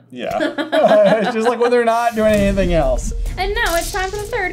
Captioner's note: laughter